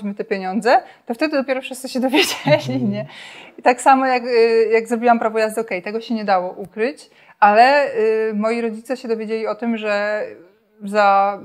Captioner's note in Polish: śmiech